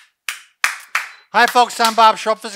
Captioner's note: clapping